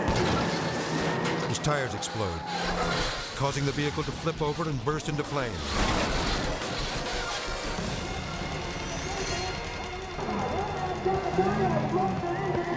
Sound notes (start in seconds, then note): 0.2 tires explode; 6.0 dragster crashes